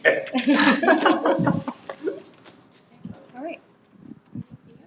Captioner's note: members chuckling